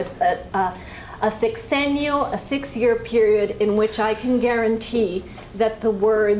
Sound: spanish

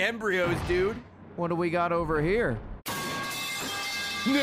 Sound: metal pipe falling sound

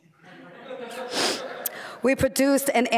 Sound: laughter

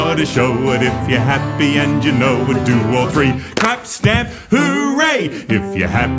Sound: clap* *stamp* "hooray!"

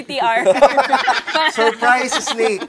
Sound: laughter

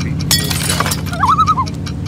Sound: loon call

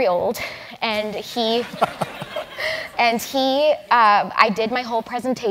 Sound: laugh

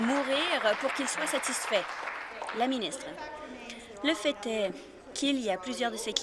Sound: applause

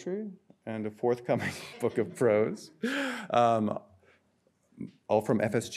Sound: laughs

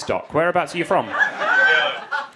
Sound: crowd laughing

